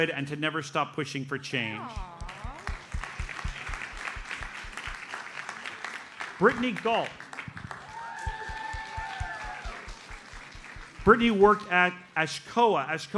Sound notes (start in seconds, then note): 2.7 audience applauds; 8.0 audience cheers and applauds